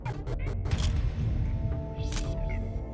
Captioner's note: camera shutter click